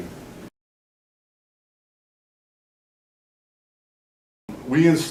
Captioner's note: silence